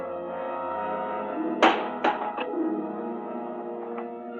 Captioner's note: window banging